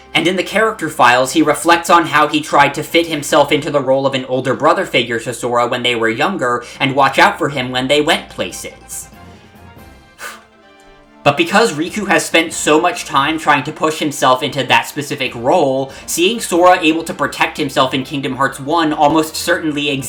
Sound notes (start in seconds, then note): 10.1 breathe